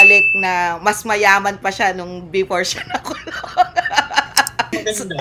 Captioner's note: laughter